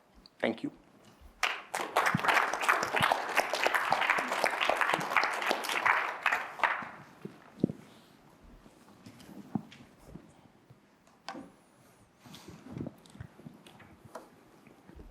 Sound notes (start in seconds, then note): 1.3 applause